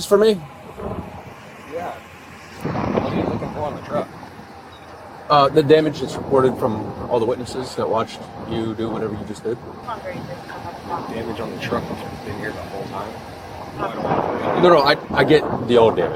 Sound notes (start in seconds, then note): 9.8 radio chatter